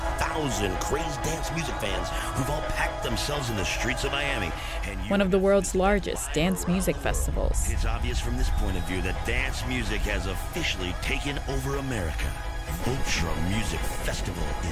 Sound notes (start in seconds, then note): 8.1 soundbite of archived recording